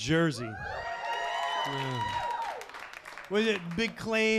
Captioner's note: audience cheering